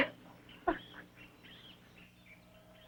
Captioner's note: sobbing